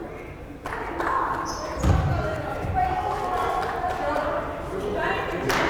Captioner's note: crowd chattering and yelling